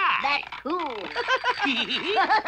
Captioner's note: laughing